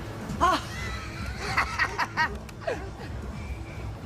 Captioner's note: nana laughing